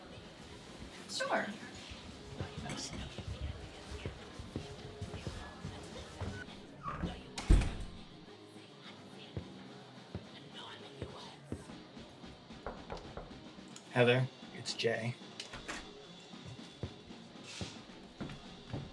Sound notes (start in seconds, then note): 6.8 door shutting; 13.0 knuckles rapping